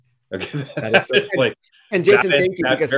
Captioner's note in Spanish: risas